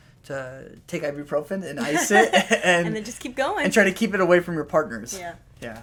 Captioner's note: laughter